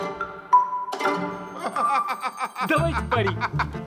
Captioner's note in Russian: смех, веселая кабацкая музыка